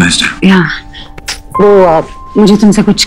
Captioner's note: Kisses